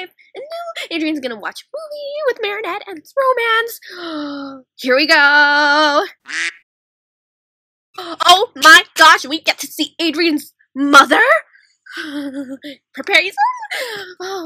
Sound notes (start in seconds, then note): 3.7 gasppp; 6.2 quack; 13.7 gasp